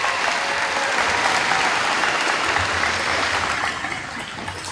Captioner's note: crowd applauding